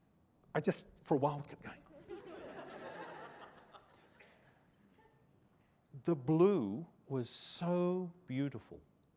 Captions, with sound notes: I just-- for a while, kept going [laughter] The blue was so beautiful.